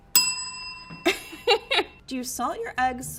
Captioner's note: rings bell